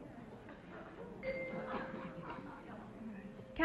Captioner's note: whispering; chime rings